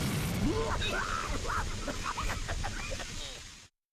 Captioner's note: coughing